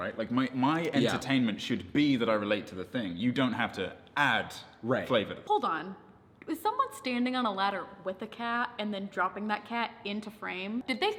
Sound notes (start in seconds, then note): none